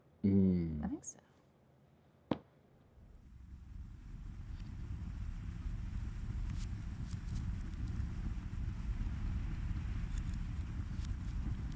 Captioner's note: the sound of fire in reverse